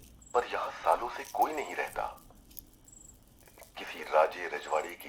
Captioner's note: radio